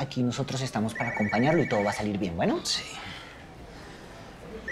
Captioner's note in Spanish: Suena el celular